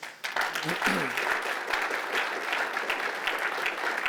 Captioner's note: applause